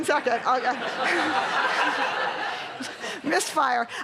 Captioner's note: laughter